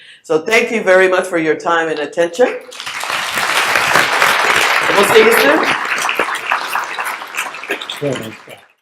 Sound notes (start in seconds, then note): 2.6 audience applauds